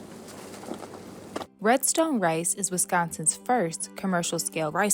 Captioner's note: rice plants shuffling